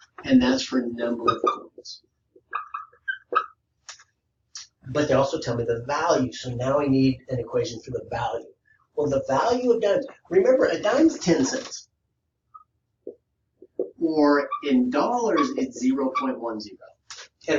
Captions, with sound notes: and that's for number of coins. (marker squeaking) But they also tell me the value, so now I need an equation for the value. Well, the value of dimes, remember a dime's 10 cents, or in dollars, it's 0.10.